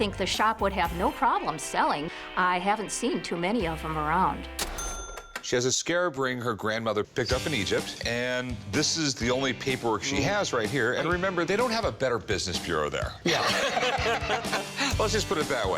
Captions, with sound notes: would have no problem selling. I haven't seen too many of 'em around. She has a scarab ring her grandmother picked up in Egypt, and this is the only paperwork she has right here, and remember, they don't have a Better Business Bureau there. (laughs) (laughter) Let's just put it that way.